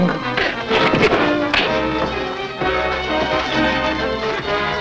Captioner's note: fists thud